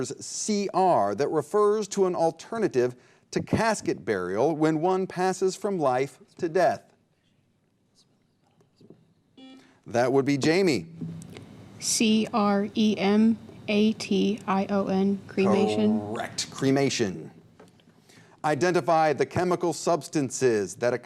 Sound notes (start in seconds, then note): 7.9 team whispering; 9.3 buzzer beep